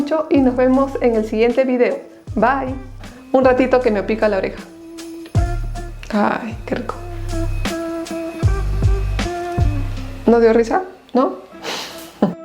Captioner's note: laughs